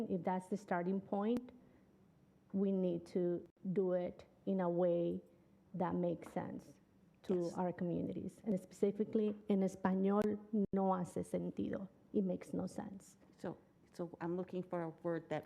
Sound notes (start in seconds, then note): 9.2 speaking Spanish